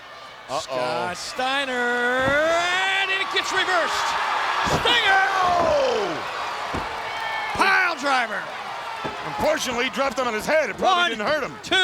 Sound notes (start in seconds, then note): 5.1 audience cheers